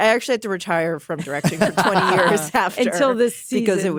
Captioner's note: all laugh